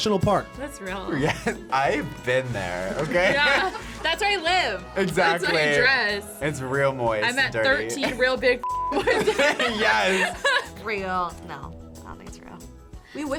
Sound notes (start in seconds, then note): 8.6 beep; 8.9 both laugh